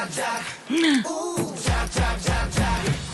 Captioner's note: gasp